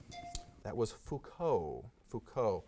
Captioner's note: timer dings